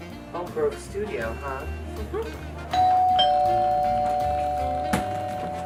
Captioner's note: doorbell rings